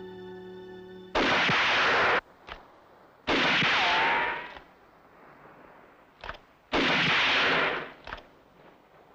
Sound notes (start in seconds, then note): 1.1 gun firing